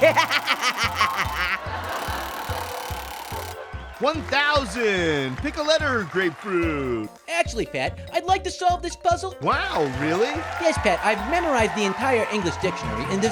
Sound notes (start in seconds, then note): 0.0 Orange laughs; 1.7 audience laughs; 2.7 wheel spinning